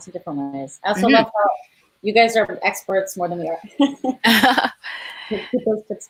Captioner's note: laughs